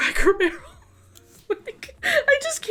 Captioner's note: laughs